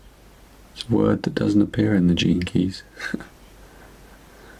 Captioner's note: chuckles